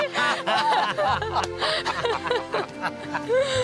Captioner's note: laughter